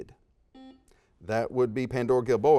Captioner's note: beeps